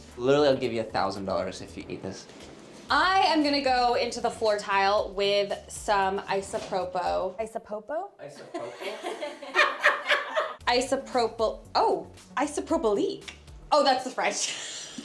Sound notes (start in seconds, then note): 8.4 group laughing